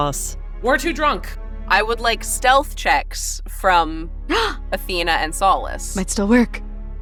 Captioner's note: gasps